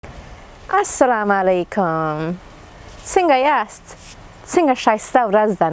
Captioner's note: speaking foreign language